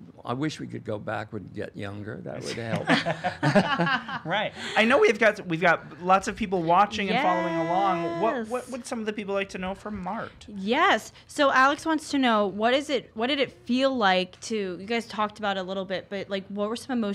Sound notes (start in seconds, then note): 2.4 all laughing